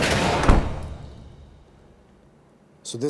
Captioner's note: gunshots; door closes